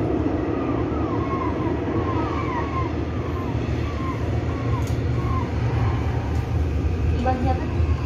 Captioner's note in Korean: 갈매기, 파도 소리